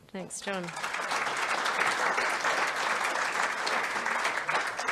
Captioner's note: audience applauds